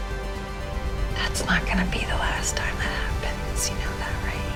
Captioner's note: voiceover